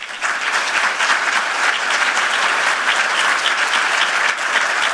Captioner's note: audience applauds